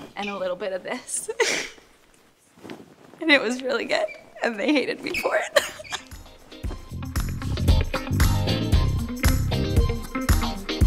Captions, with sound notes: and a little bit of this. (laughing) And it was really good and they hated me for it. (laughing) (upbeat music continues)